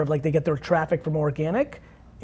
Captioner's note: none